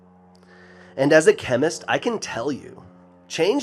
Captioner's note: none